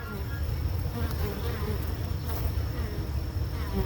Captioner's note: bees buzz